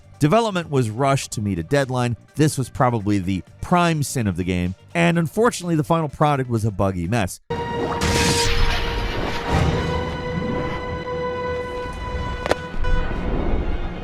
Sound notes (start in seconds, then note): 8.0 window smashing; 9.1 dramatic orchestral music